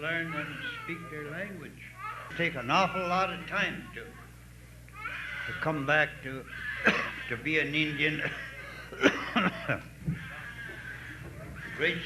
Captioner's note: coughing